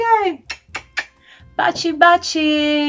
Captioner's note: kissing sounds